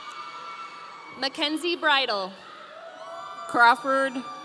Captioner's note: audience cheering